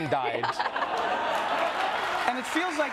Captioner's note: group laughing